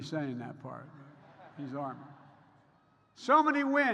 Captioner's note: laughter